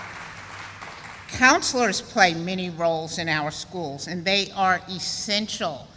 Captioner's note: sound of applause